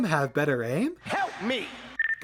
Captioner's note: ”help me” sound effect